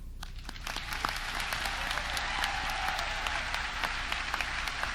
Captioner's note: audience clapping